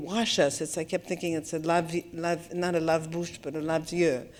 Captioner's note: french